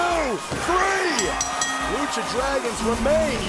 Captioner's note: bell ringing